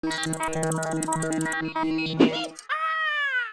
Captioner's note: electronic sounds